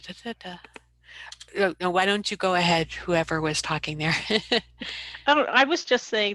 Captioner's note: laughs